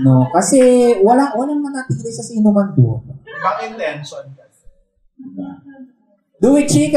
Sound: laughter and murmurs

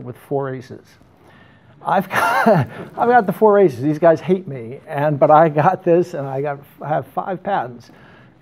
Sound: laughs

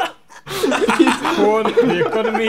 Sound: everyone laughing

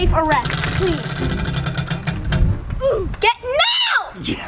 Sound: wheel clanks around metal axle

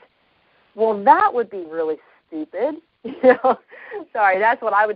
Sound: short laugh; still laughing

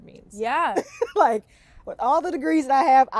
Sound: laughs

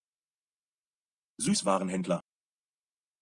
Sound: fast Pronunciation

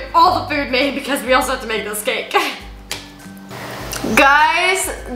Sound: chuckles

